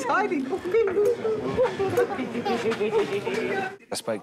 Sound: gibbering and laughing

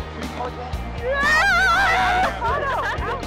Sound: yells; laughter

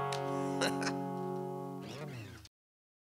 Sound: laughs

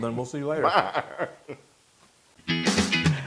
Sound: laugh

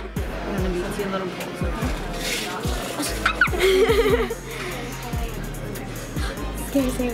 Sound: squeals

